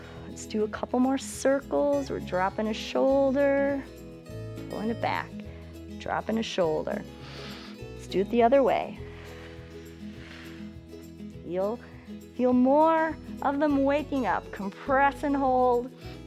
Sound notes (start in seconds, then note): 7.2 inhales; 9.0 exhales